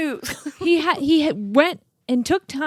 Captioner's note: laughs